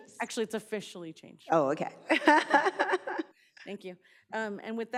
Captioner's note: laughs